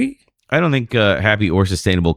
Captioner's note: uh